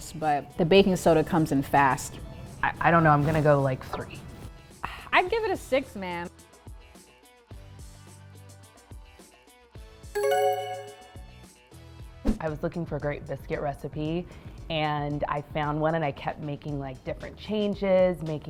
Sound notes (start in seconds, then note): 10.1 bell dings